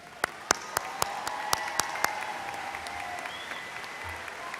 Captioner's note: audience applauds